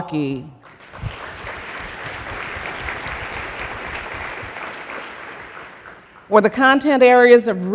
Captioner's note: applause